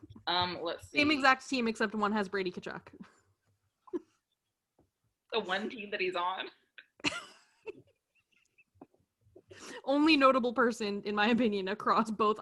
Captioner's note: laughter